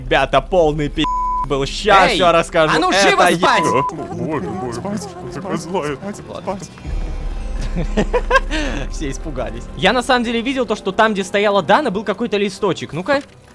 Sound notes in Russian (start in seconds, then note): 4.1 Перепуганные голоса